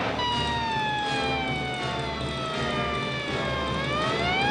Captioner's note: sirens